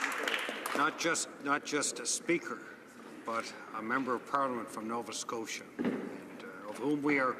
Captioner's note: applause